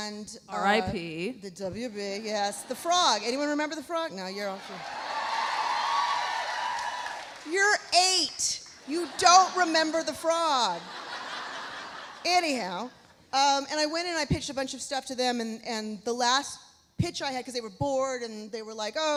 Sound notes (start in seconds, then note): 4.6 audience cheering; 4.6 audience applauding; 10.8 audience laughs